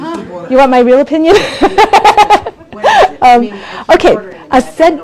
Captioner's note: laughs